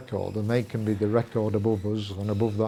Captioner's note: metal creaking and squeaking